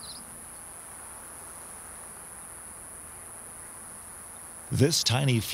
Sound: crickets and birds chirping

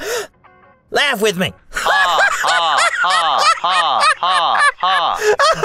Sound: laughs

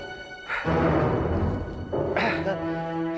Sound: panting, groaning

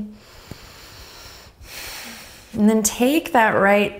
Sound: inhales and exhales

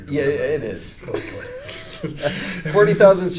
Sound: both chuckle

